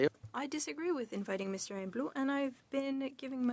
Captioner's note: speaking French